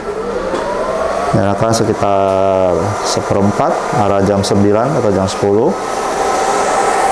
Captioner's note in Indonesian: suara mesin printer